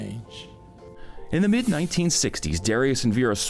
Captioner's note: air whooshing